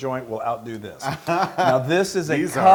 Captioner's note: laugh